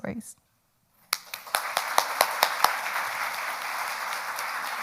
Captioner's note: crowd clapping